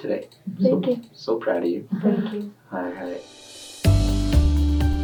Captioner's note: chuckling; upbeat music